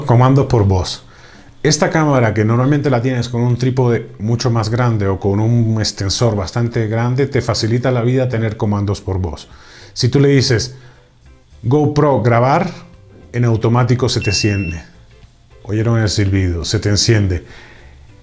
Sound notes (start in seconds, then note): 14.2 whistle